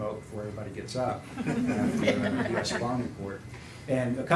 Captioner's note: laughter